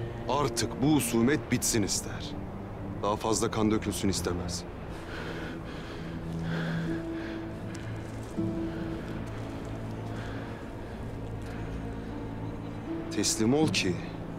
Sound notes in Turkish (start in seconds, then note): 4.9 Nefes sesi